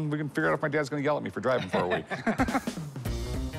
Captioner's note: laughter